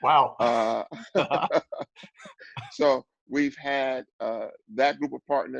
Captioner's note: laugh